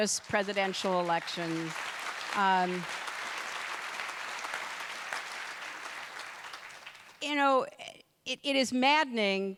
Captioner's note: applause